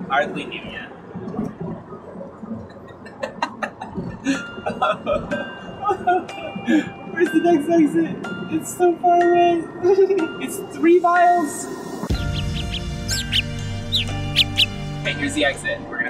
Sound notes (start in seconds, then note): 2.8 mad laughter; 5.2 dramatic sobbing; 12.0 bird chirping